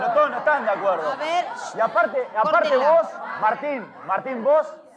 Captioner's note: shouting, Discussion